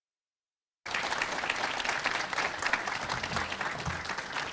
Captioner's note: audience clapping